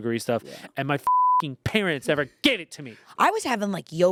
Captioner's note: beep